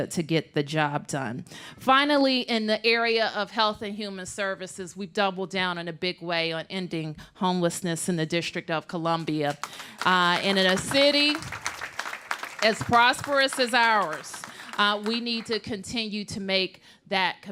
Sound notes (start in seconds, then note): 11.1 applause